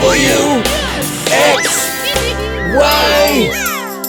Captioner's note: giggling